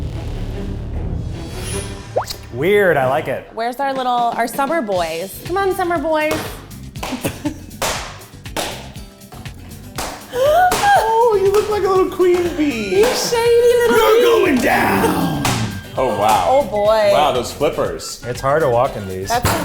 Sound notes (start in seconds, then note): 0.1 dramatic music; 6.7 flippers flapping; 10.3 laughs